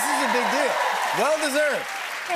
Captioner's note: cheers and applause